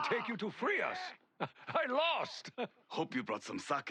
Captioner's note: laugh